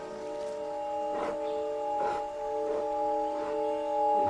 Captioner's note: loud panting